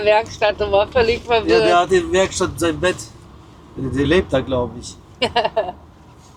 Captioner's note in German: gelächter